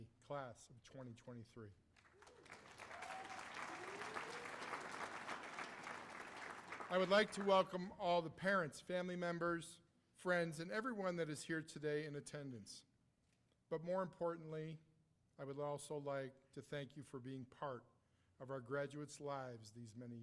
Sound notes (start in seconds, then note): 4.9 cheers and applause